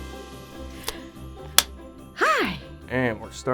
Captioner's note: clapper snapping